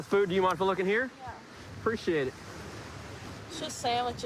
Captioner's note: none